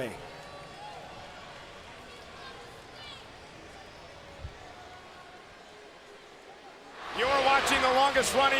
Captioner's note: applause